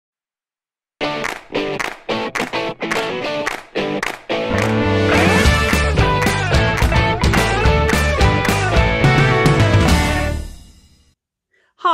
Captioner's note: claps